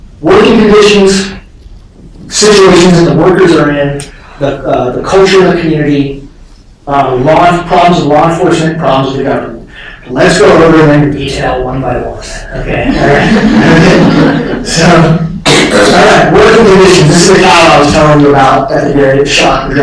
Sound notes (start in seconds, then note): 12.6 laughter